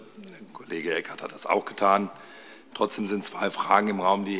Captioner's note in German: none